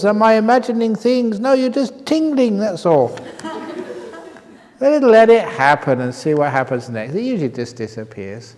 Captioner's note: laughter